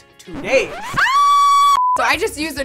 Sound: screaming

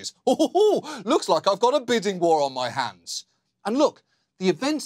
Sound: giggles

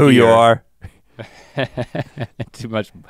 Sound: Link chuckles

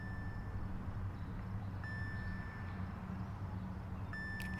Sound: beeping

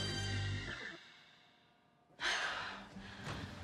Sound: Andie sighs

